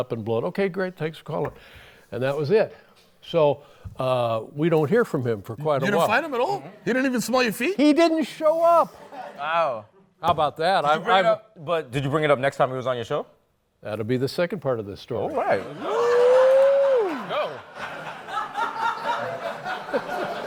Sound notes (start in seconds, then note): 17.4 laughter